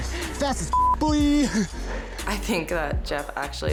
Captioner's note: beep